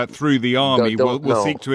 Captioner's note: laughs